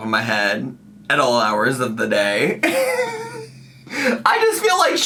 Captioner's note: laughs